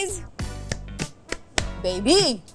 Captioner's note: applauding